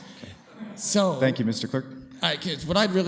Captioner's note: laughter